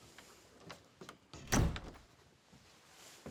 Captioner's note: door closes